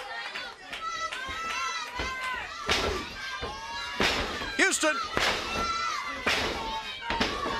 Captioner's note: crowd chatter